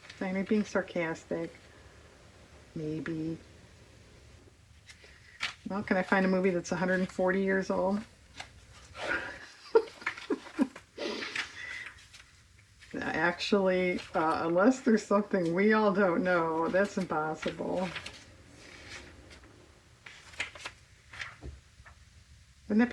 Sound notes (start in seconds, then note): 12.2 laughs